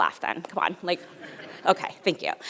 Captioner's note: audience laughs